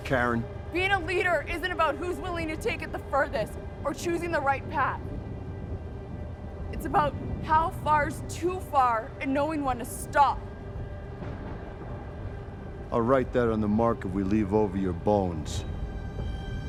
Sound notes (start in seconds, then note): 11.0 distant rumbling